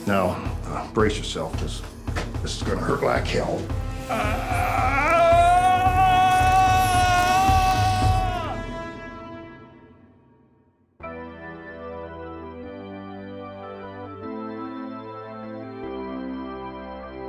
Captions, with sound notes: Now brace yourself, cause this is gonna hurt like hell. (screams) (lively organ music)